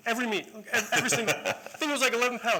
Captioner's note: laughter